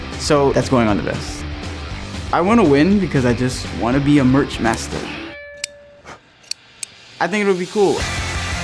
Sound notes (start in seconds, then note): 6.4 scissors snipping